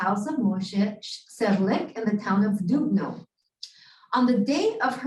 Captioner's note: Hebrew